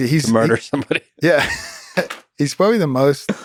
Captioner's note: both laughing